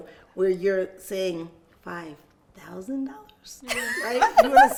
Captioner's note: quietly; laughs